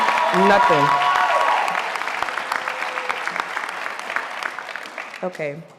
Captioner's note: audience applauding